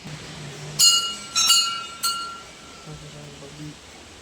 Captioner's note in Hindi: घंटी की आवाज़